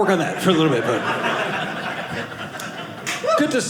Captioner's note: audience laughing